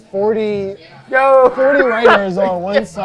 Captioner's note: laughing